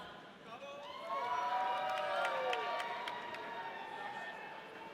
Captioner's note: audience cheering